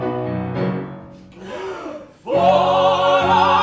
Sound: all take a big breath

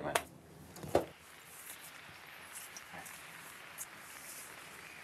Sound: audience applauding

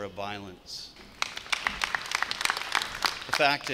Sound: clapping

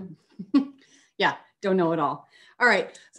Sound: giggles

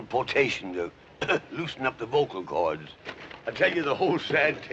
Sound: coughs

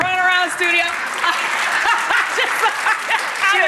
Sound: audience applauds; laughing

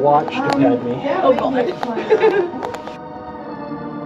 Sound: laughter

